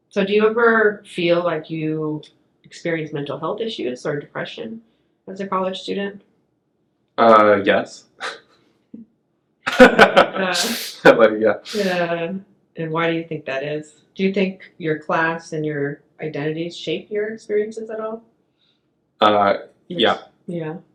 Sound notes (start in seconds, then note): 9.6 laughing